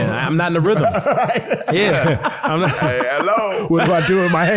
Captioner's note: laughing